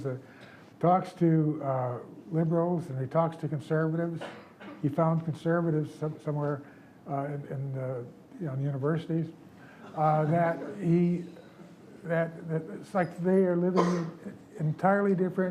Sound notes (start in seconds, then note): 9.8 audience giggles